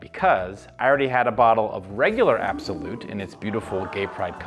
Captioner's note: sfx: Oooo